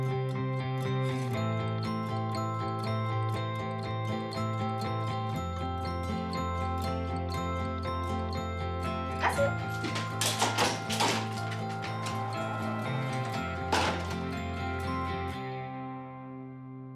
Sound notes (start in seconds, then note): 9.3 nails clatter on handle